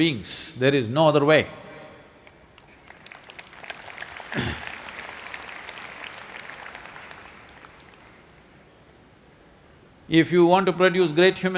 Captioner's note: applause